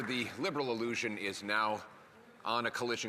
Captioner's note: applause